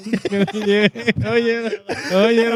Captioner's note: all Laughing